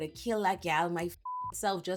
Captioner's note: beep